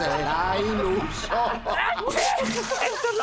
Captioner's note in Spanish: risas